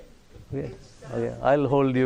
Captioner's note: audience reacts